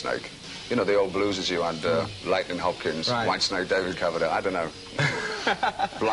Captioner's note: laughs